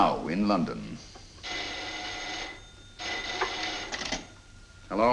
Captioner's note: phone ringing